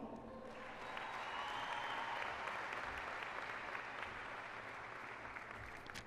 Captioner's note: applause and cheering